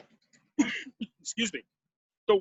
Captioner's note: coughs